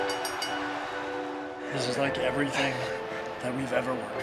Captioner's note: bell ringing